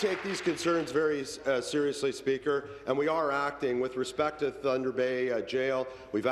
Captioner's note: applause